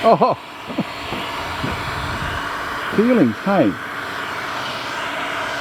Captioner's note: blowing noise continues